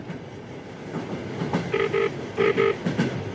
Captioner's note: ringing tone